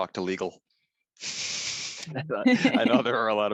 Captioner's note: laughter